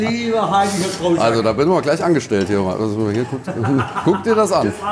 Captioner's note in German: Lachen